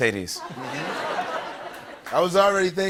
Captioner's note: laughter